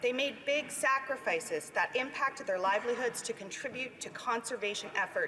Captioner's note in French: voix de l'interprète